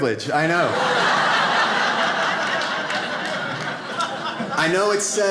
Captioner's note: audience laughs